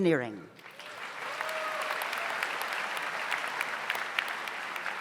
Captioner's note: audience applauds